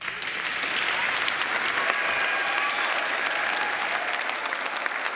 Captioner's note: audience cheering; audience applauding